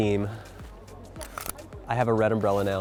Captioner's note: umbrella clicking